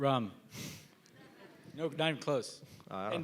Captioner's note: laughing